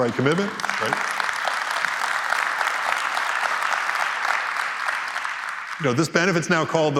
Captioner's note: applause